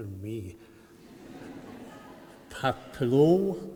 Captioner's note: laughter